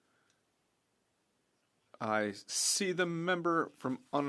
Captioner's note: speaking French